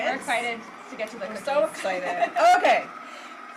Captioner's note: laughs